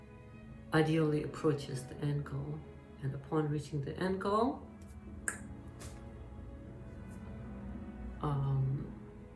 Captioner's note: snap!